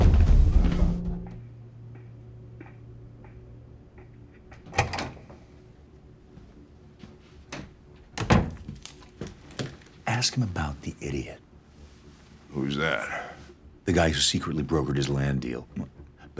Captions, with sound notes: (footsteps plodding) (door latch clicking) (door thudding) - Ask him about the idiot. - Who's that? - The guy who secretly brokered his land deal.